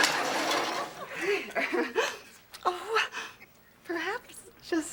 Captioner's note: nervous laugh